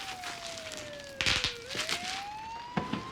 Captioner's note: popping; siren wails in distance